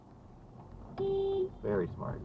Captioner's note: beeep